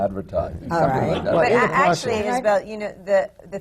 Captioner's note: laughter